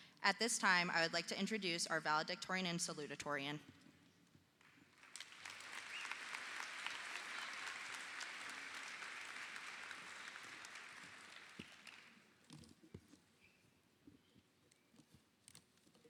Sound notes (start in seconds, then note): 4.9 audience applauding